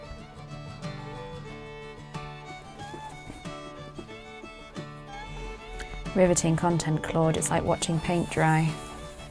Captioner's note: iron sizzles